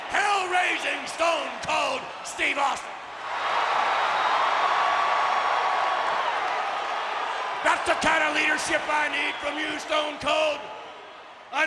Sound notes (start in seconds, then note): 3.7 audience cheering